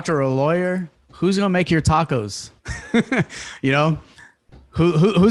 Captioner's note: laughs